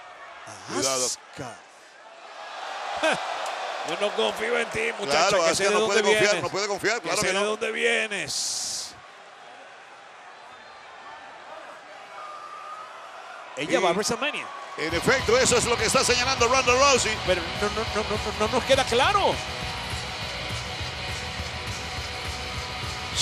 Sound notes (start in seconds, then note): 9.0 applause